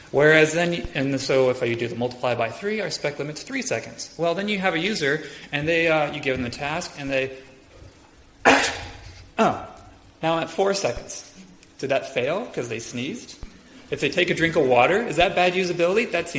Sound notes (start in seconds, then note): 8.4 imitates sneeze